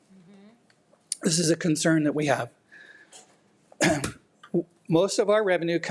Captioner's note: clears throat